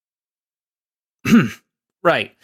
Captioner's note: awkward silence; clears throat